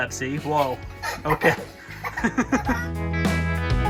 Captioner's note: laughter